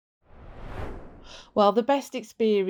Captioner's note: screen swooshing